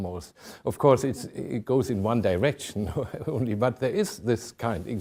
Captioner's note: chuckling